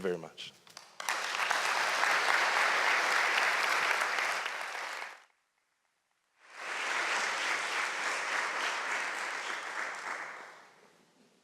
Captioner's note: applause